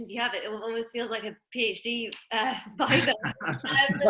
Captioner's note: all laugh